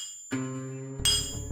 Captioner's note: hammering